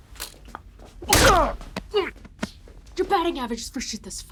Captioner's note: Lennox groans; gun thuds